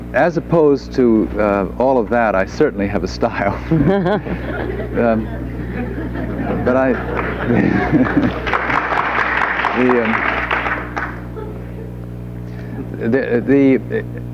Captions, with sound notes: - As opposed to all of that, I certainly have a style. (group laughing) But I, the... (audience applauds)